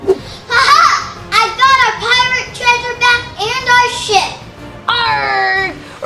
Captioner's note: splashes; laughs